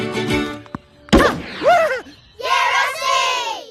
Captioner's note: upbeat music; ball pounds; crowd cheers